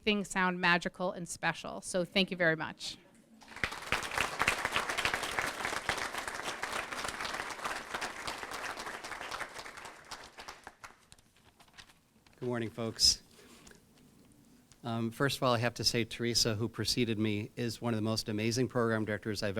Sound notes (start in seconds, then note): 3.4 applause